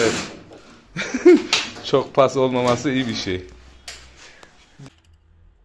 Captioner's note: laughing